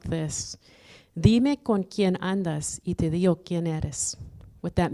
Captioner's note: foreign language